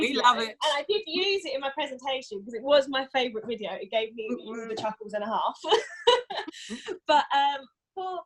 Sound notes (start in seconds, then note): 6.1 laughs